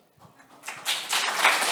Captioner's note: applause